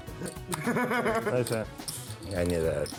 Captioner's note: laughter